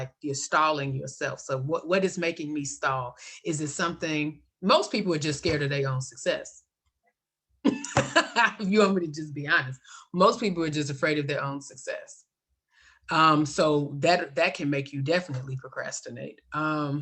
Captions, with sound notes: you're stalling yourself. So what is making me stall? Is it something-- most people are just scared of their own success. [LAUGHTER] If you want me to just be honest. Most people are just afraid of their own success. So that can make you definitely procrastinate.